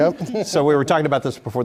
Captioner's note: laugh